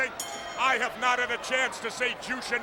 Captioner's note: bell ringing